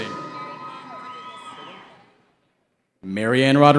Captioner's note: cheering